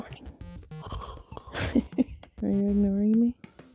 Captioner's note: snores